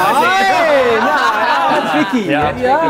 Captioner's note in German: Gelächter